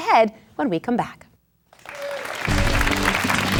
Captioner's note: applause